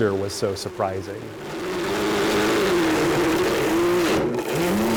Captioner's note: blender grinding